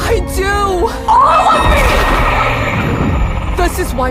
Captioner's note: echoing